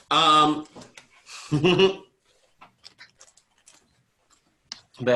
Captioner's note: chuckles